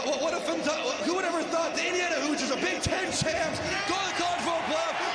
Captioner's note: chanting "heismandoza"